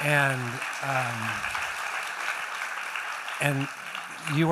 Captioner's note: applause